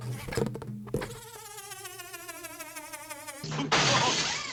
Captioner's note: winding-down sound